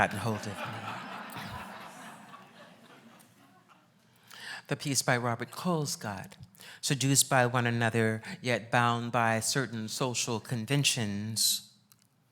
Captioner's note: laughs